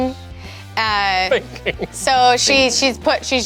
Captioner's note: laughs